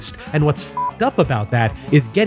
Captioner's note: beep